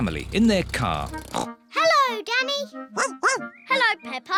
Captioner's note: snorts; barks